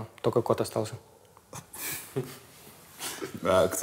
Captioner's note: all chuckle